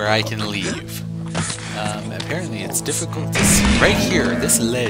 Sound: pots breaking

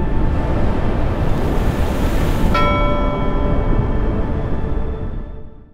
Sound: sound of rushing water and bell ringing

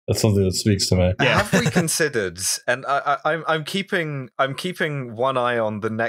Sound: laughter

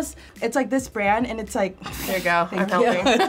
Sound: laughs

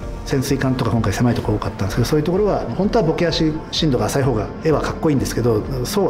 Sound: speaks Japanese

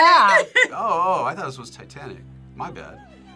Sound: both laugh

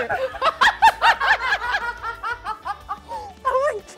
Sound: laughs

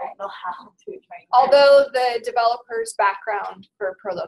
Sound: voiceover

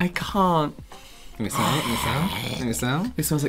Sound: some Kind of Demonic Retching

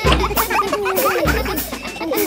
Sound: children laughing

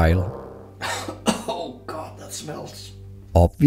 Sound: cough, cough

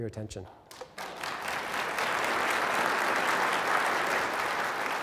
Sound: applause

